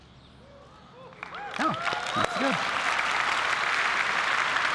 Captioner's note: applause